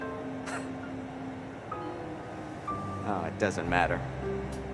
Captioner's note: laughs